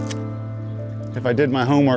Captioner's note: camera snapping